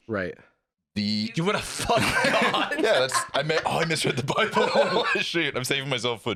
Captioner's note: laughing